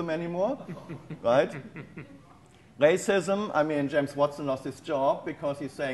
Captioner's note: audience chuckles